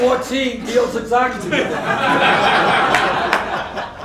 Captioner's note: laughter